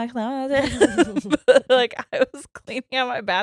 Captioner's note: laughing